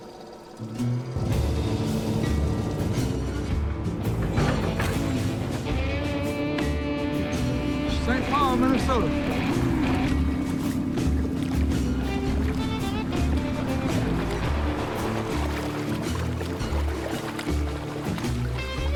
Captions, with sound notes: (barge engine) Saint Paul, Minnesota. (engines rumbling and traffic)